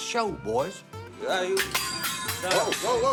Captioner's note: clanging